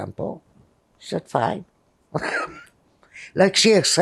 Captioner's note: laughing